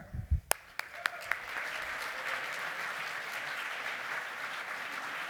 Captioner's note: applause